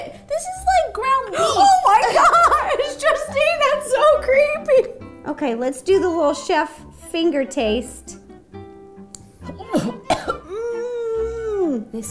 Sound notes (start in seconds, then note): 9.5 coughs